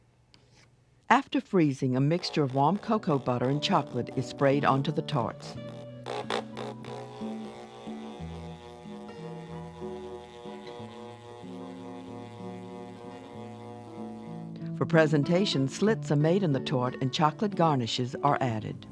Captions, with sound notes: - [Voiceover] After freezing, a mixture of warm cocoa butter and chocolate is sprayed onto the tortes. (gentle guitar music) For presentation, slits are made in the torte and chocolate garnishes are added.